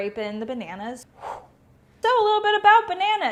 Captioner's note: whoosh